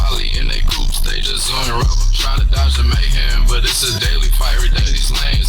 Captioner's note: burnin' rubber